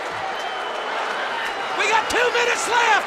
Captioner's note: crowd cheering